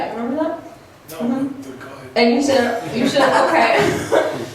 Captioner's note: laughs